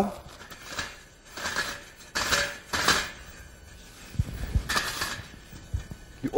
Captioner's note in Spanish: Tapa de metal rozando libremente, en silencio